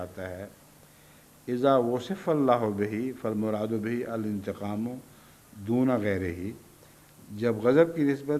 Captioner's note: Arabic